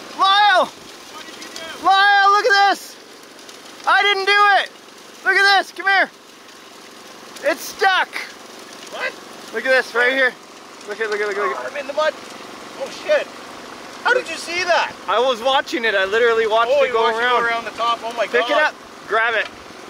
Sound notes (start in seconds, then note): 1.0 shouts